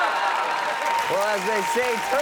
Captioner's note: audience laughs; audience cheers and applauds